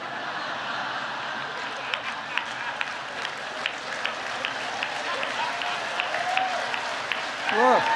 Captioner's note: laughter and applause